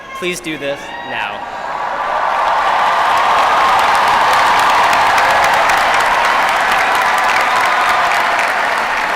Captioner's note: applause